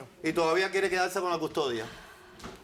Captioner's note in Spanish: Hablan al unísono